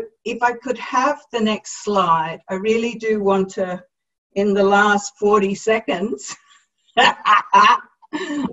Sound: laughter

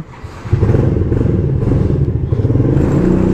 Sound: motorcycle Engine Start

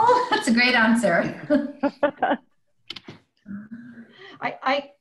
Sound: laughing

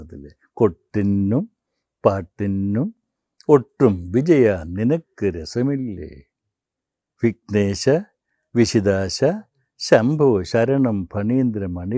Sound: recites

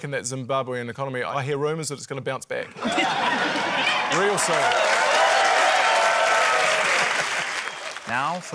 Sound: laughter, cheering, applause

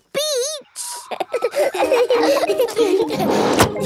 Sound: all laughing

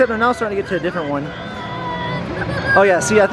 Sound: minions screaming

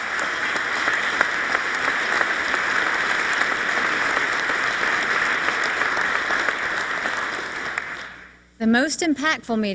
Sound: applause

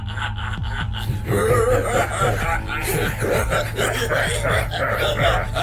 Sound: both laughing wickedly

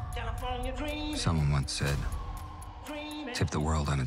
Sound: siren wails

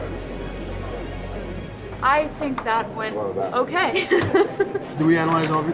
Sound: laughs

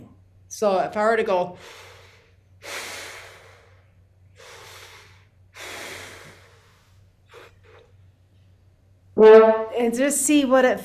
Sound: takes breaths, blows horn

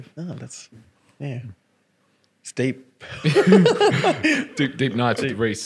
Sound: laughing

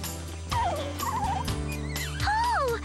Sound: bird Singing

